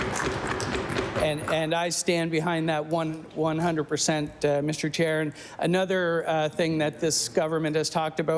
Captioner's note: applause